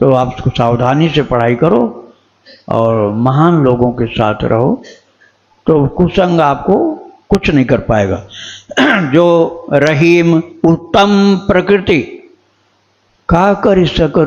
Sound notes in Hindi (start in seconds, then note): 8.7 गला साफ़ करने की आवाज़